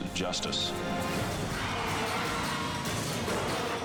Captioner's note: tires screeching; car crashing